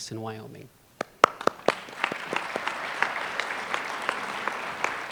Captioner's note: applause